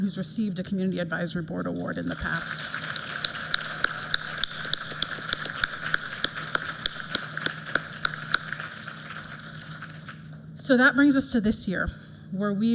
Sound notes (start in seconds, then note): 2.0 applause